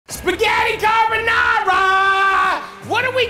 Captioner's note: yelling